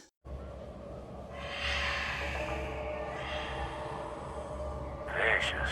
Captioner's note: vulture Screech